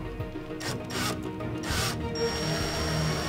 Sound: drilling

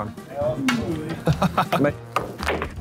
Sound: laughing; pool balls colliding; cue striking ball

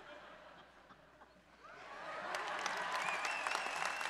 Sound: audience applauds

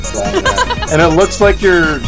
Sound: laughs

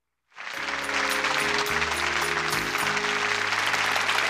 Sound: applauding

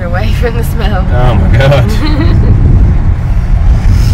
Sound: laughing

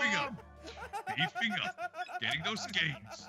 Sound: laugh

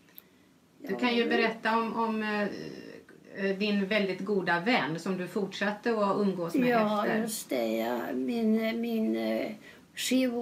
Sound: foreign language

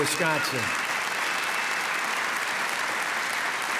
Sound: applause

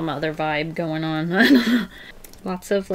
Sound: through laughter

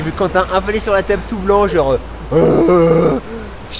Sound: cry of agony

